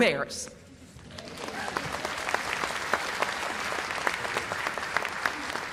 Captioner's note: cheers and applause